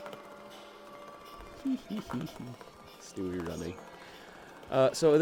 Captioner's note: giggles like an idiot